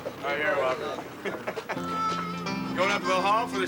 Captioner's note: laughs